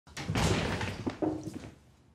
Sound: door shuts

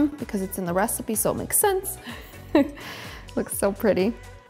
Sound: chuckles

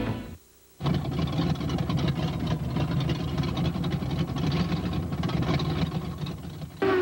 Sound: car rattling

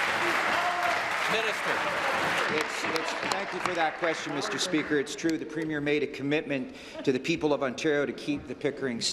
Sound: applause

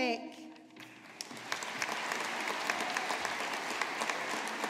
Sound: audience applauding

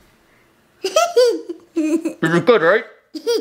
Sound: laughing

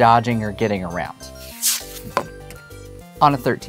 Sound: paper rustling

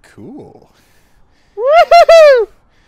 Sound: cheers

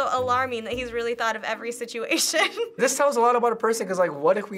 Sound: laughs

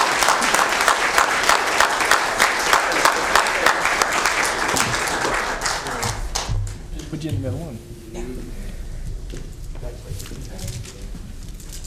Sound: applause

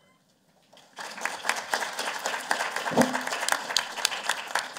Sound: applause

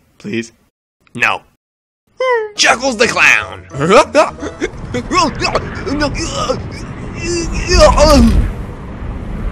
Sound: wind blows

